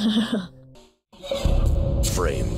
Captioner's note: chuckles